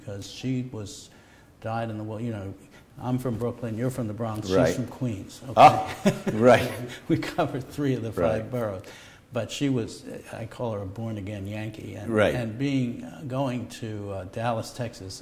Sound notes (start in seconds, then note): 5.7 laughter